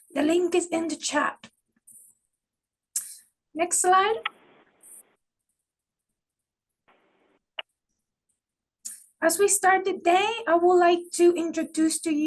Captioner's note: pause